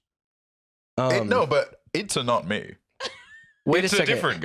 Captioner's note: laughs